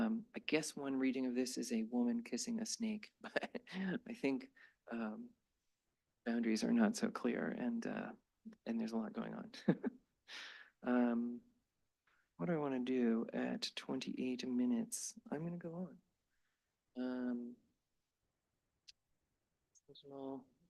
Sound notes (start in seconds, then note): 9.6 chuckles